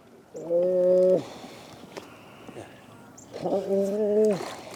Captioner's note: humming